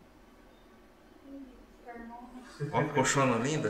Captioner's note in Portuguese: risos